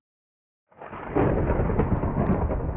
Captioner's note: thunder crashing